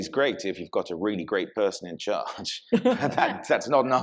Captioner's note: laughs